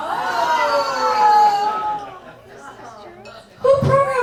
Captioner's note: audience hollering